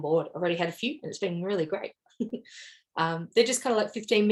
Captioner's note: chuckles